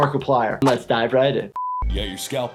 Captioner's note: broadcast signal